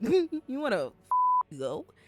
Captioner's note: beep